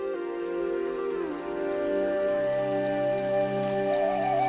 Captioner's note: water flowing